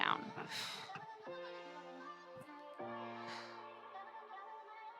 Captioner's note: exhaling